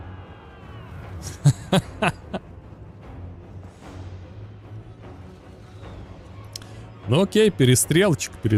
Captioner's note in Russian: смех